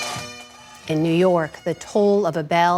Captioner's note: bell ringing